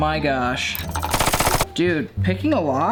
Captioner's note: metal clanging